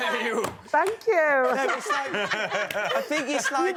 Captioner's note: housemates laughing